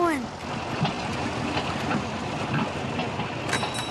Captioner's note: tractors rumbles